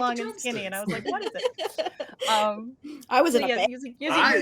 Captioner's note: laughing